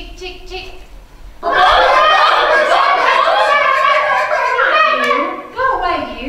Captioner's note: hens squawking